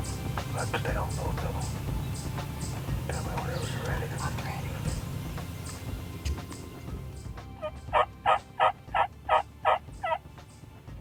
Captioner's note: whispering